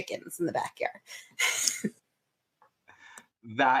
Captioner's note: laughter